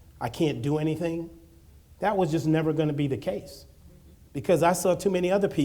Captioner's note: none